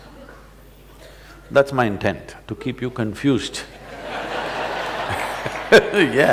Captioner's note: laughter/Applause